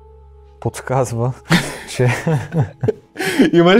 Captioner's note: laughter